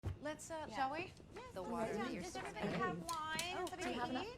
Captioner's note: women chatting